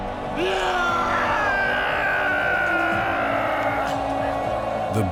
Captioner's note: screams